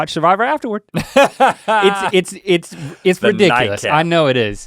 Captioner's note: Rhett laughing